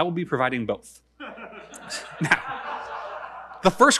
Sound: audience laughing

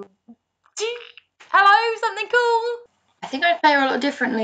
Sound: excited noise

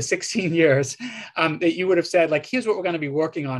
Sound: laughter

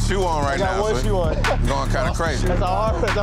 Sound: laughing

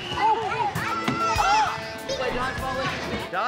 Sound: ball thuds against his head

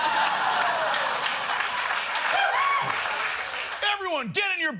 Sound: laughter

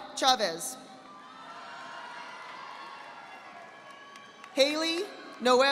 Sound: audience applauding

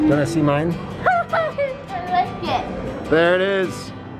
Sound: laughs

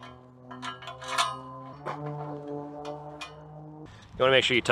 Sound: metal clangs

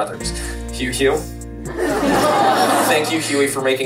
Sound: crowd laughing

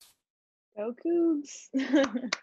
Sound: laughs

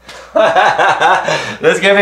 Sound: laughing

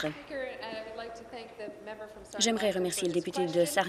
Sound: applause

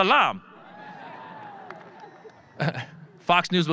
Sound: audience laughing

